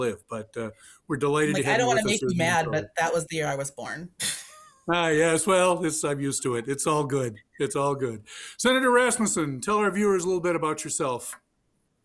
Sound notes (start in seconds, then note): 4.5 chuckles